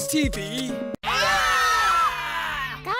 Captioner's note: scream!